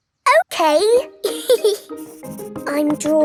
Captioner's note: giggles